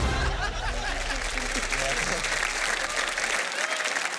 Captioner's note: applause